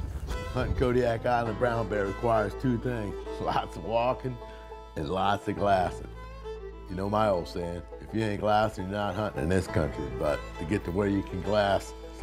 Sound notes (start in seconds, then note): none